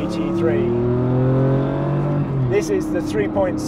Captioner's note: car engine revving